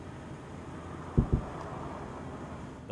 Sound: sound of sonic boom

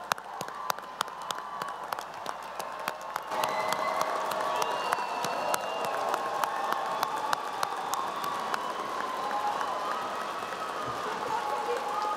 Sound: applause and cheering

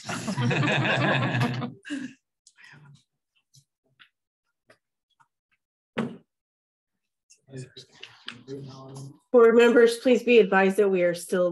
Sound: laughter

